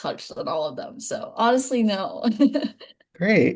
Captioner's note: laughing